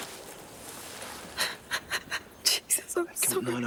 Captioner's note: Jodie sobbing